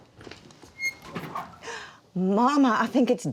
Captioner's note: oven door opens; Dory gasps